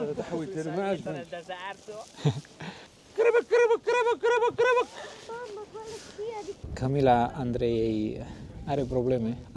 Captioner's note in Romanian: Râsete